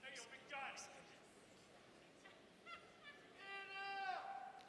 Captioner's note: audience members shouting